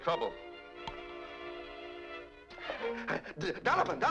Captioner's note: phone clicks